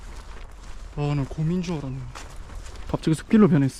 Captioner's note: suddenly there is a rustle in the grass